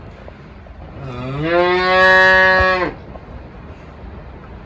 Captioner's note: cow moos